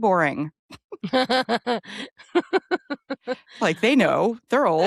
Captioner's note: Emily laughing